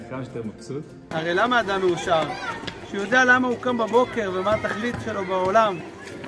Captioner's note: speaking hebrew